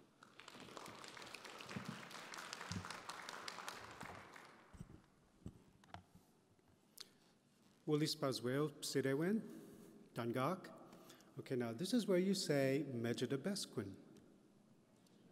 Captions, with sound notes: (audience applause) - (Speaking in Maliseet) Okay, this is where you say, mege-de-besk-win.